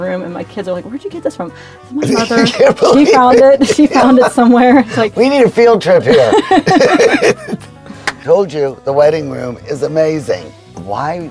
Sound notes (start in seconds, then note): 2.0 laughing